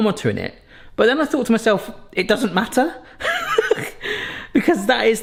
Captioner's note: laughs